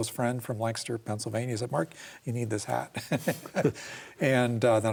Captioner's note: laughs